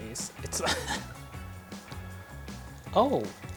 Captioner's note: laughing